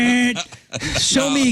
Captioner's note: laughing